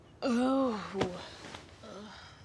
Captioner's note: groans in regrets